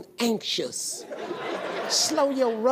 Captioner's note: audience laughing